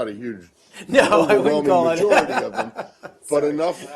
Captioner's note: laughter